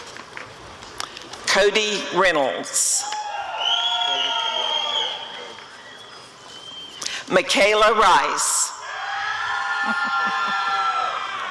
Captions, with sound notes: Cody Reynolds [applause and cheering] Michaela Rice [audience cheering]